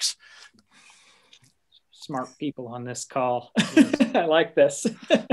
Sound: chuckling

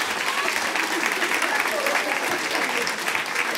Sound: applause

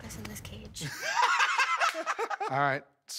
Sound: laughter

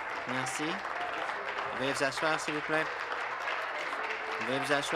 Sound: applause

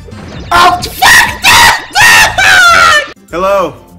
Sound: screams

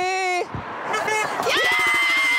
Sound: car honks

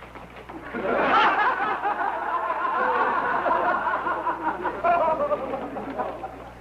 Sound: laughter

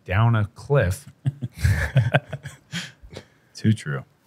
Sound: laughter

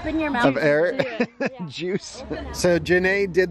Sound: laughs

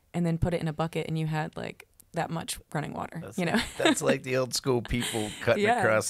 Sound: laughs

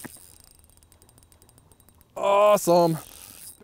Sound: reel whirring

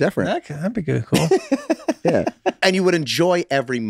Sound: laughs

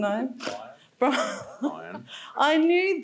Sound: laughs

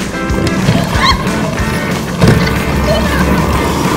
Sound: laughing

